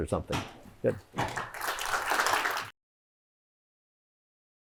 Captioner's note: applause